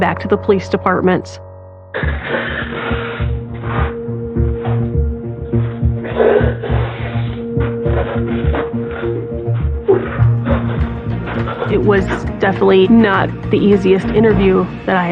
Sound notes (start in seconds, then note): 2.1 sobbingng